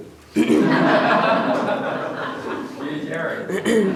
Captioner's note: audience laughs